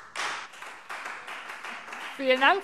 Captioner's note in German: Beifall Freie Demokraten